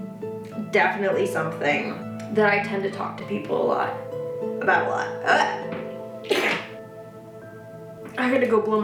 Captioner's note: sneezes